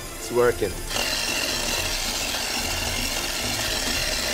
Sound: whirring

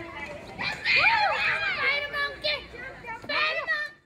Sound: children shouting

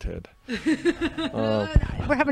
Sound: laughing

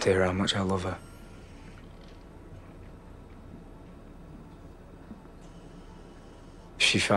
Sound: machine noises continue

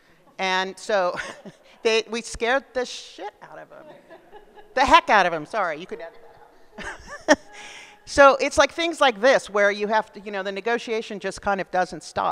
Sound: laughs

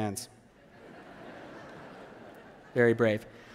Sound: laughter

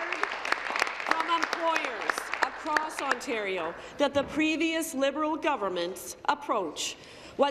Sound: applause

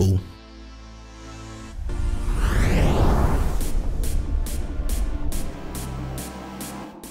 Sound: whooshing; EDM music

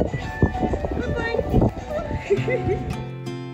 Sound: laugh

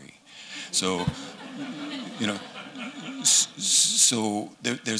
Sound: laughter

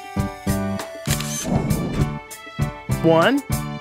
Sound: SFX: Camera Shutter

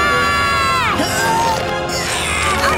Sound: screaming; grunting

